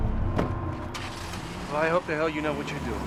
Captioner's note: engine starting